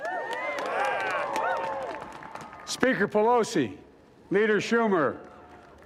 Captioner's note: cheering